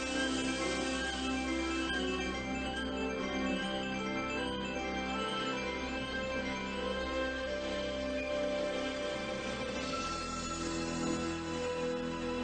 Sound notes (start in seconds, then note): none